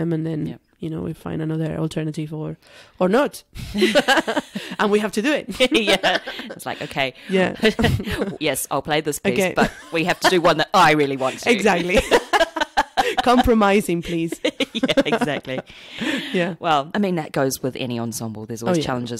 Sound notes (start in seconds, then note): 3.7 laughs; 12.7 laughs